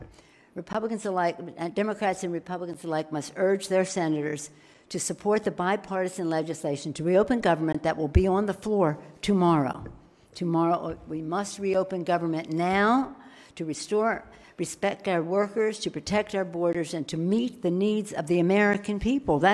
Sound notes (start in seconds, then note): none